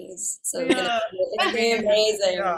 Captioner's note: laughs